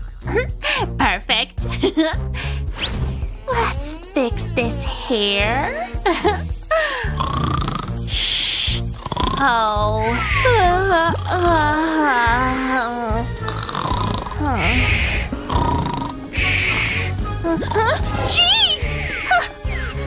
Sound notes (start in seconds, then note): 1.8 snoring; 12.9 yawns; 13.2 snoring; 19.3 blows